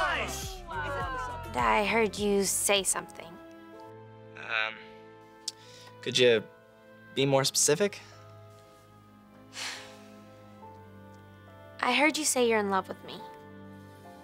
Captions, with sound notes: Wow. I heard you say something. Um... Could ya... be more specific? [exhaling] I heard you say you're in love with me.